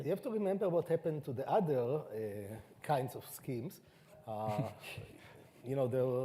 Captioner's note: chuckles